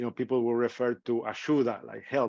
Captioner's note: speaking in foreign language